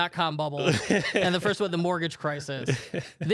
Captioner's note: laughs